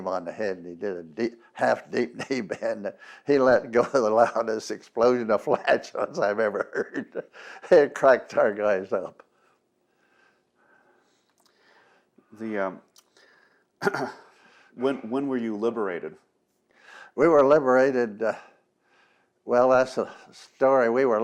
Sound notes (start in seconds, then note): 11.0 laughs